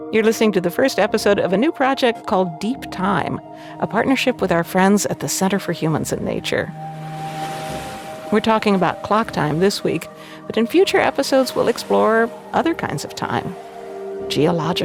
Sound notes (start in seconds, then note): 7.4 airy music intensifies; 7.4 waves whooshing